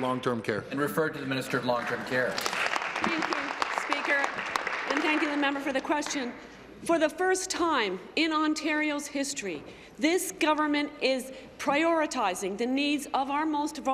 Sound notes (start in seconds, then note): 1.4 applause